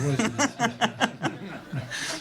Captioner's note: laughter